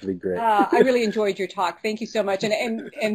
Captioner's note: laugh